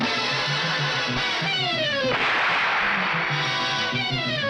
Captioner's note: gun shoots; tense music continues